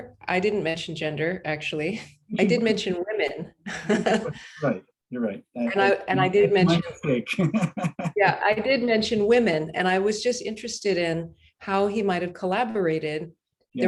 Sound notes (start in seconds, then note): 3.6 laughs; 7.9 laughs